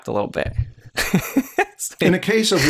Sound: laughter

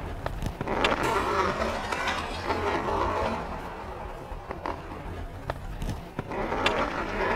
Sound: hockey stick scraping; skates rubbing; stick scraping

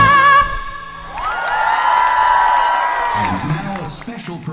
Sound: audience cheers

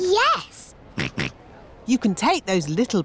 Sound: snorts

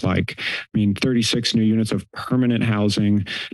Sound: inhales

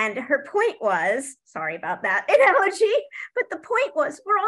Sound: laughs

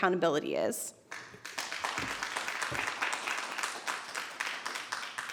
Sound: audience applauding

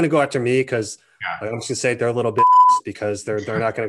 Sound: beeps

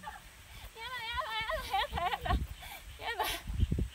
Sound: laughs

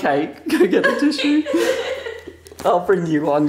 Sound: laughs

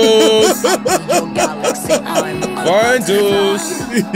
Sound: laughter

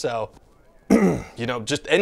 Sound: ahem

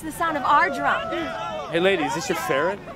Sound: protestors shouting

